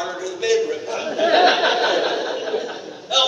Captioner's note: audience laughter